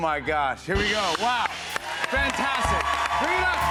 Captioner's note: cheers and applause